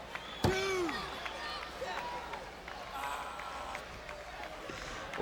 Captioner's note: crowd clapping